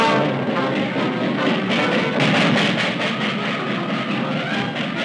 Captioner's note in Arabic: صوت القطار